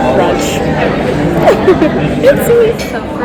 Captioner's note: awkward laugh